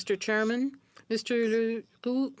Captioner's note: speaking French